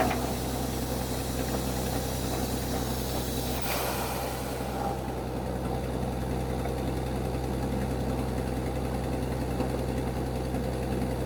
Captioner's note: drilling machine sound